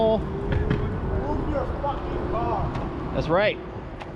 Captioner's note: bam-bam